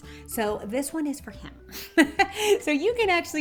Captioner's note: laughing